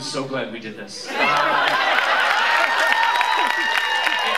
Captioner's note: cheers